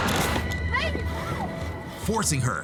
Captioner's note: crashes; woman shouts